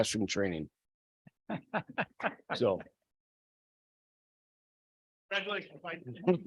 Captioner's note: board member laughs